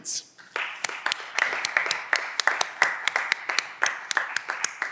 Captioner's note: audience applause